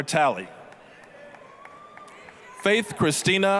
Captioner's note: applause, cheering